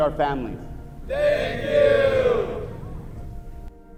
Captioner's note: crowd